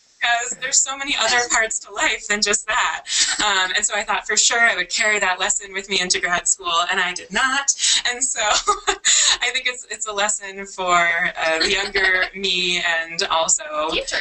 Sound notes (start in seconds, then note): 8.4 laughs